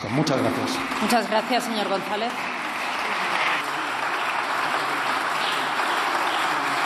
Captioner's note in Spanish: Aplausos